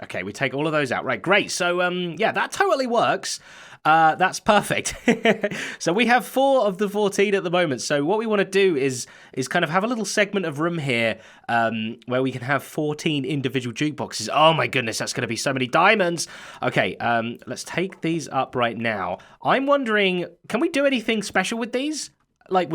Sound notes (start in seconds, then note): 4.8 chuckles